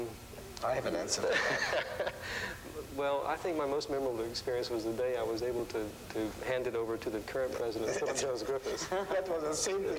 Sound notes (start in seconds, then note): 1.3 laughs